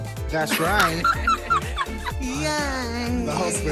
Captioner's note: laughing